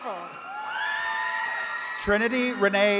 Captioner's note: attendees cheering